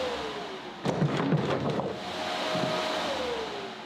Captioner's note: items rattling; machine whirring